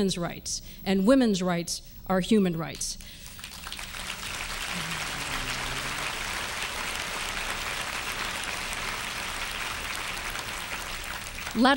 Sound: applause

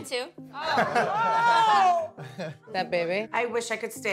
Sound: laughing

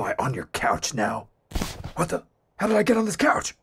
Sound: couch noise

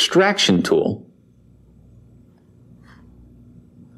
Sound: silence

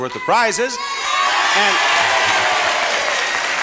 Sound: cheering

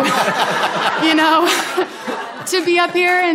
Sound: audience laughing

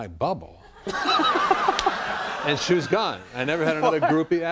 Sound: laughs

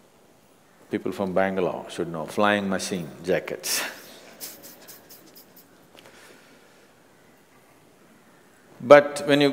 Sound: laughs

